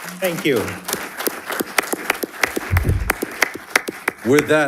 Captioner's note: audience applauding